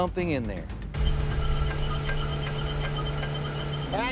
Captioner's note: metal squeaking